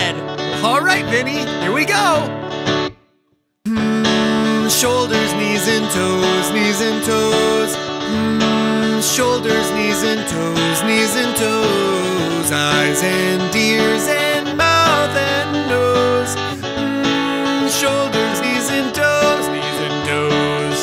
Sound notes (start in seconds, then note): 3.7 humming; 16.7 humming